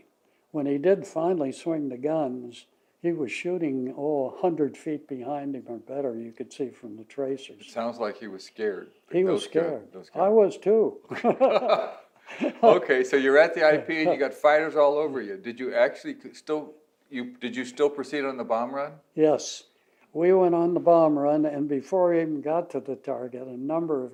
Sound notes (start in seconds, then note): 11.0 both laugh